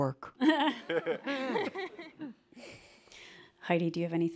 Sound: laughter

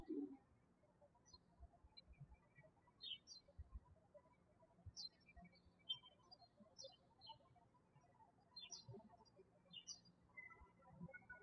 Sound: birds chirping

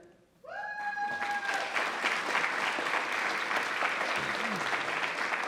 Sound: attendees applauding

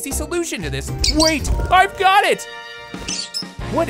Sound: chirping

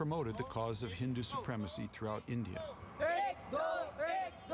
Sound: shouting

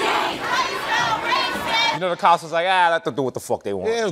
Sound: protesters chanting; brooklyn accent

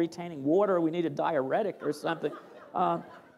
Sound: laughter

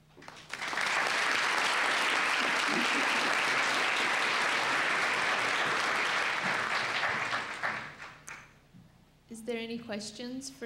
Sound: clapping

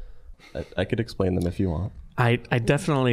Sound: chuckling

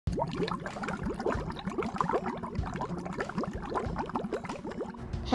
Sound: water sound

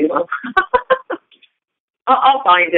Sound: laughter

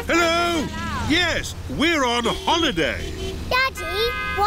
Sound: horns honking

